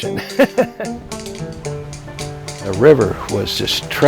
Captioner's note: laughs